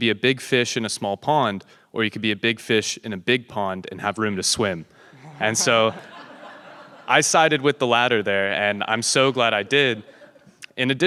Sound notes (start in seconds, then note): 5.1 audience laughing